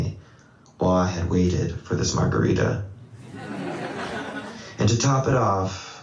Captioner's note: laughter